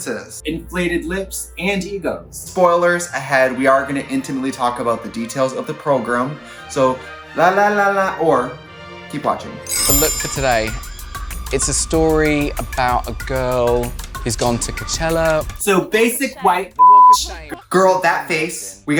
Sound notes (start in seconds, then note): 16.7 beep